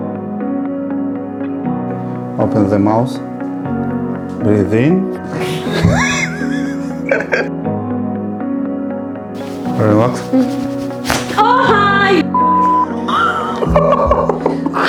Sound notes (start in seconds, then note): 5.3 laughing; 13.0 laughing